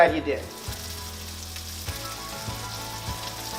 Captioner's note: pan sizzling